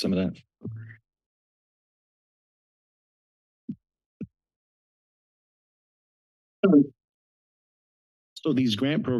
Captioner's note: silence